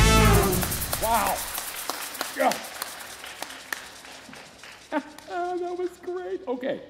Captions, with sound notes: - Wow. (people applauding) (laughs) That was great. Okay.